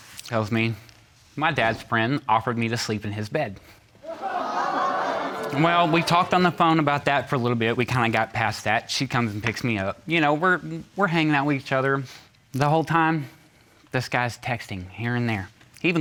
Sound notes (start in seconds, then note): 4.0 audience gasps